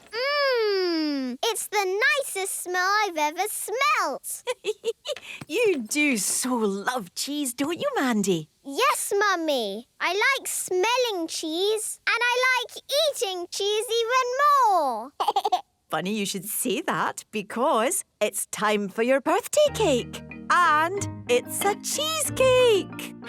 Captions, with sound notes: - Mmmm! It's the nicest smell I've ever smelt! - (giggling) You do so love cheese, don't you, Mandy? - Yes, Mummy! I like smelling cheese. And I like eating cheese even more! - Funny you should say that because... ...it's time for your birthday cake! And... it's a cheesecake!